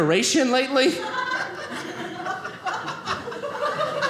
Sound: audience laughing

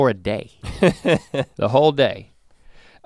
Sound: chuckles

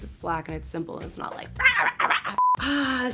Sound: animal noises

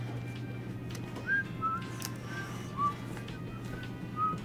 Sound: whistling

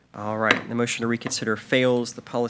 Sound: gavel bangs

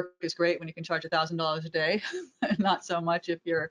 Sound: laughs

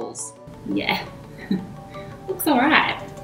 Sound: laughs

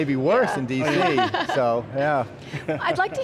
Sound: laughing

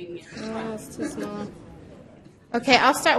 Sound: voiceover

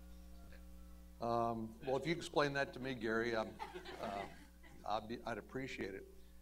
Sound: laughter

